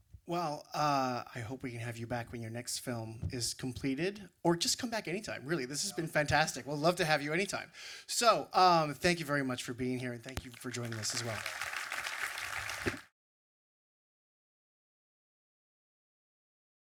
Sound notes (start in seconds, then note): 10.3 audience applause